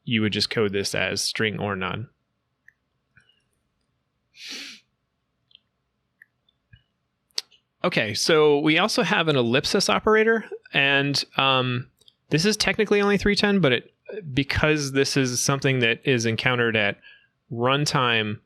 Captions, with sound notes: you would just code this as string or none. (presenter sniffing) Okay, so we also have an ellipsis operator and this is technically only 3.10.0, but because this is something that is encountered at runtime